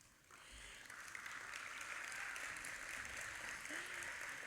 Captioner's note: audience applauding